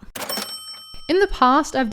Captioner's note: dinging